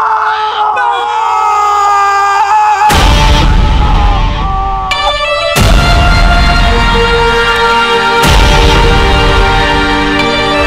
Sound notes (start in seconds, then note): 0.0 Rahat screams